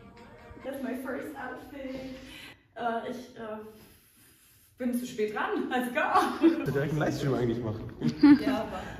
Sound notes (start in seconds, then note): 5.8 laughs